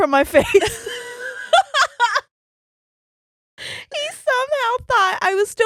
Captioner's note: laughing